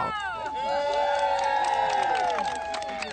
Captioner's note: cheering